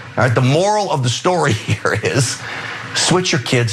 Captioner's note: laugh